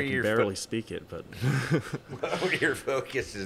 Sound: chuckling

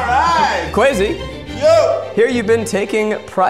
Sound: shouts

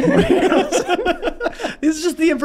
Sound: all laughing

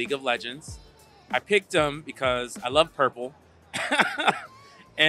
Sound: laugh

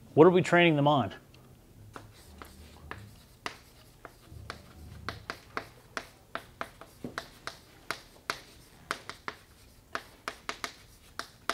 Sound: chalkboard writing

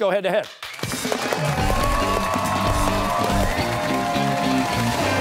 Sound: cheers and applause

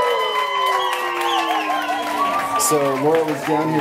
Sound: cheering

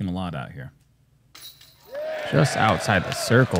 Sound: applause

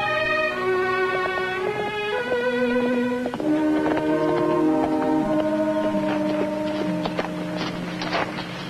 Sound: hoof beats

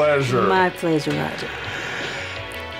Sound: inhale

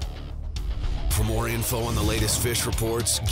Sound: voiceover

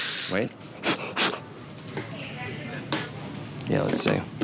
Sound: blows

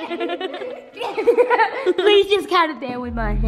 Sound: laughter

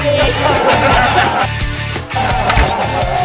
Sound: laughing

